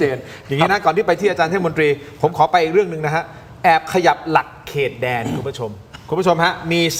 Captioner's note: clears throat